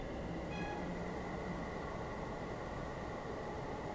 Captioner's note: rustling winds